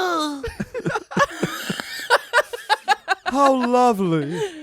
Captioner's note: everyone laughs